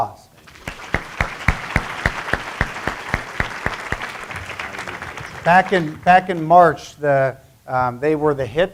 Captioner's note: applause